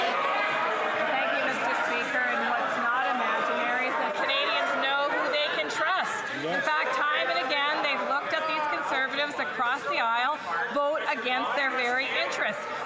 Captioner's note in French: voix de l'interprète